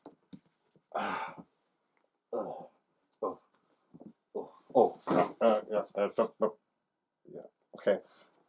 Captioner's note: grunting